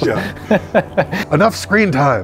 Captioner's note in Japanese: 笑い